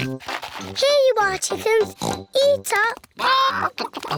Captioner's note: oinks